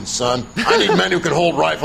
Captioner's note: laughs